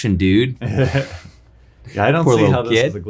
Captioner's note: laughing